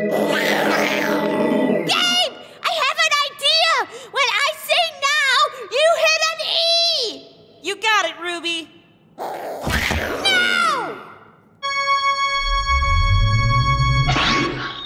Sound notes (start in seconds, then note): 0.0 growling; 9.2 raccoons growl